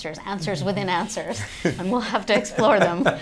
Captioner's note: laughter